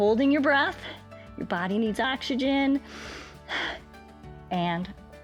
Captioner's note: inhales and exhales